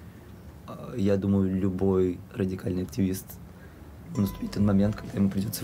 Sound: speaking in foreign language

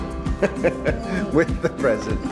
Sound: laughing

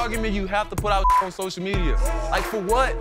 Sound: beep

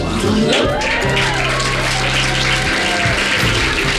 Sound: applause

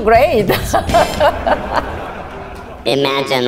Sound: audience laughs

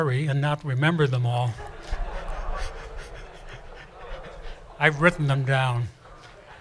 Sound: laughter

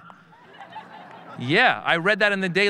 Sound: audience laughing

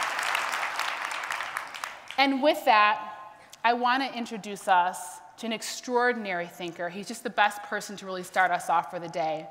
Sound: applause

